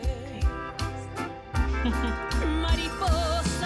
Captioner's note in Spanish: Habla entre dientes